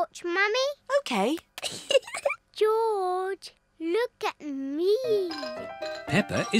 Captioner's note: giggles